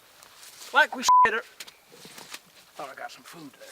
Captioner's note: beep; stick squishing